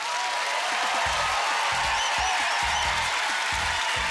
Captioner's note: cheering and applause